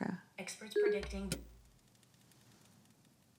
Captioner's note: TV clicking off